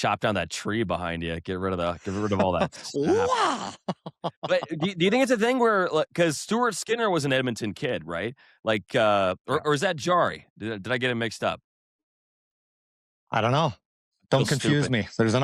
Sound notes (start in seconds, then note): 3.9 laugh